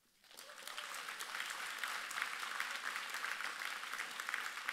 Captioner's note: audience applauds